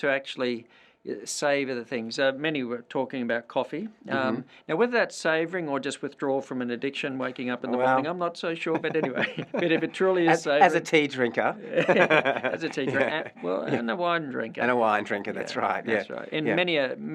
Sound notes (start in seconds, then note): 8.7 laugh